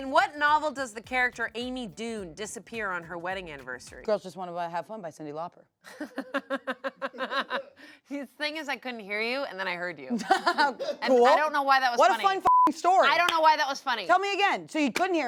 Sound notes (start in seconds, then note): 5.8 laughs; 12.4 beep